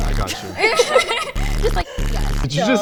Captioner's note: laughing